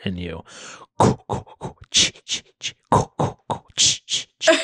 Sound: mimics scary music; laughs

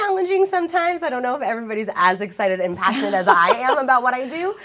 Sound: laughter

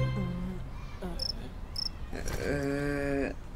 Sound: cricket sounds

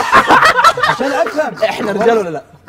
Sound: all laughing

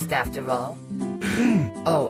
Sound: grunts

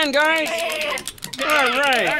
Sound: sheep bleating

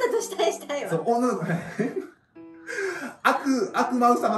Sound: laughs

